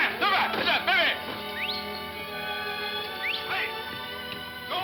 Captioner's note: man shouting; whistles